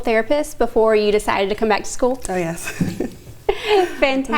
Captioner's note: laughing